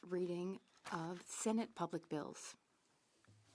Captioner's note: speaking French